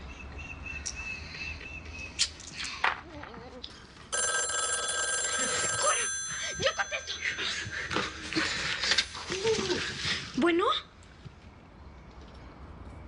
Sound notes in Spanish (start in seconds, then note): 4.1 Suena el teléfono